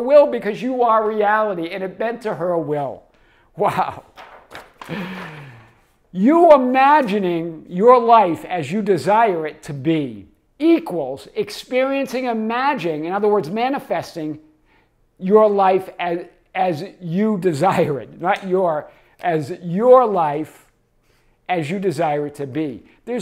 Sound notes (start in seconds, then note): 4.0 page shuffling; 4.8 chuckles